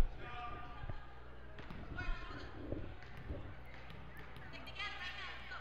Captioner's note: crowd talking and yelling